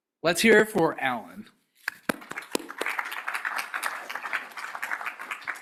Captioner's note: applause